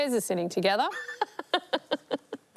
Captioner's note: laughs